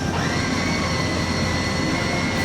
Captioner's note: door squeals